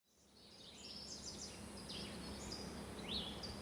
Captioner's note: birds chirping